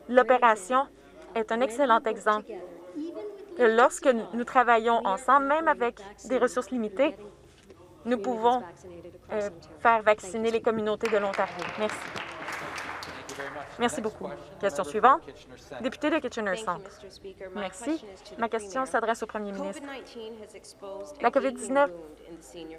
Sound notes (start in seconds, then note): 13.5 some Applause